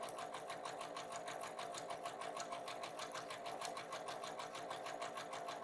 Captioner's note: sewing machine humming